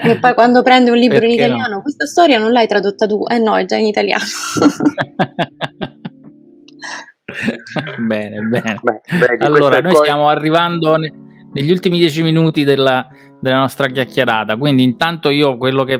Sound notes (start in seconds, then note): 4.7 laughs